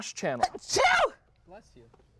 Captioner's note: sneezes